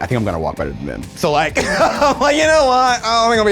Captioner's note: laughs